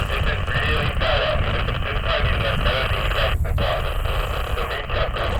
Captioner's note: interference drowns out radio